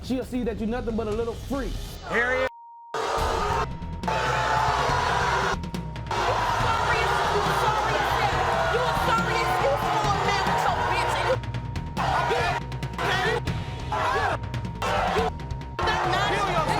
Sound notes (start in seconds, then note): 3.5 booing; 6.1 beeping